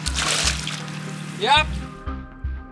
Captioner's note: water splashing